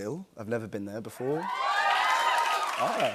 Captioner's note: cheers and applause